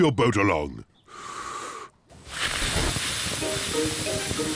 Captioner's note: inhales, blows